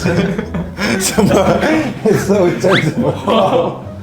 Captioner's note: laughing so hard tears come out